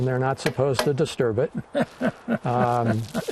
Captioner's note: laughing